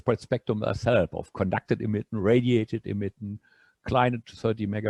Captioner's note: speaking german